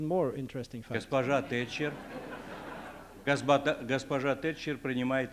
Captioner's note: non-english speech